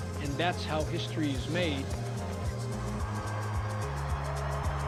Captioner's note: crowd cheering; inspirational rock music